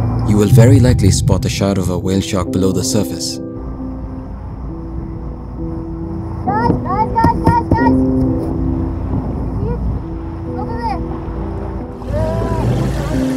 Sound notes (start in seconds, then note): 6.8 woman yelling; 10.0 somber piano music